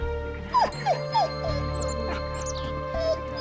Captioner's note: whimpers